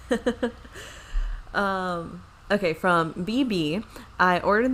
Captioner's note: laughs